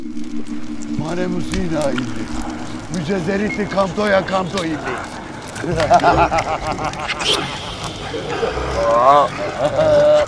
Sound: unknown language

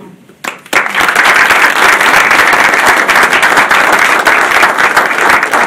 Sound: audience applauding

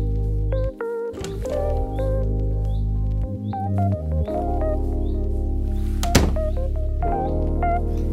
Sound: lo-fi music; door handle clicks

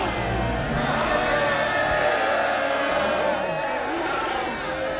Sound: loud cheering, whooping

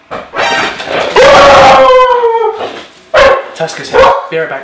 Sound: horror effect; dog howling; dogs barking

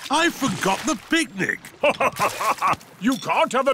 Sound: laughs

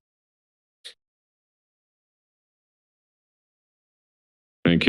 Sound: silence

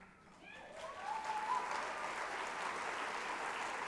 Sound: applause

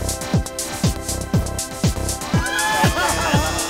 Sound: laughing

